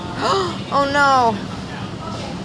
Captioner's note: gasps